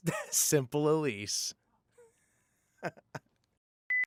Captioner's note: laughter